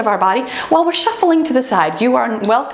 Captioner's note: timer beeps